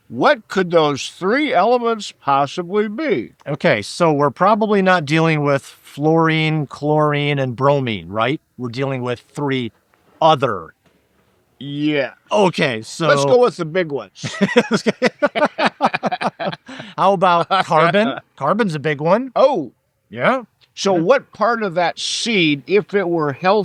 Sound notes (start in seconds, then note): 14.2 laughing